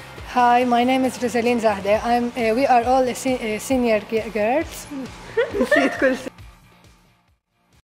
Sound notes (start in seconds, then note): 5.2 laughter